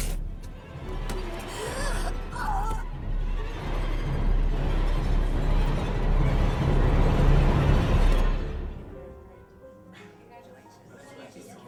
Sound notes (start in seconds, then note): 1.4 gagging; 4.8 eerie music